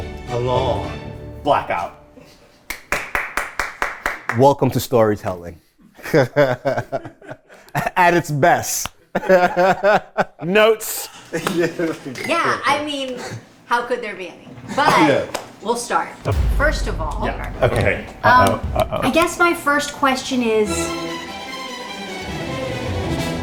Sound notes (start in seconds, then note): 2.6 clapping; 6.5 laughs; 21.6 dramatic music